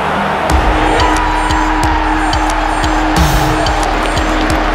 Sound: cheering

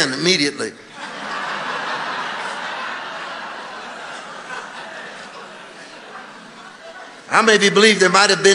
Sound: congregation laughing

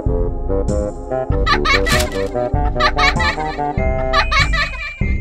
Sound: child Laughing

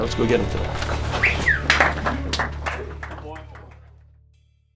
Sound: whistles and clapping

